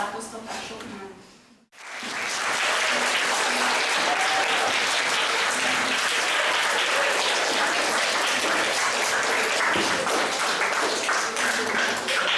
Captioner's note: clapping